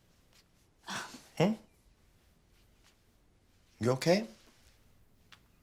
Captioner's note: Maya sighs